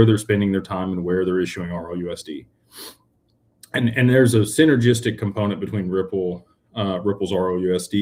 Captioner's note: snorts